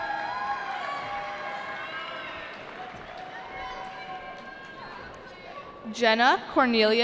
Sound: cheering

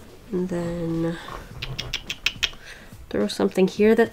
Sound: tuts repeatedly

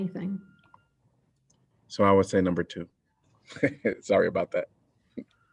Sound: laughter

